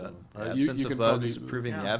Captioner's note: laughing